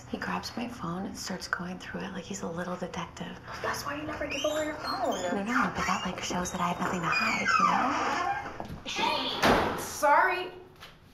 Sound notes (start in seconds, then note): 4.0 door squeaks; 9.0 door slams